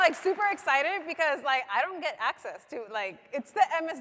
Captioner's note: applause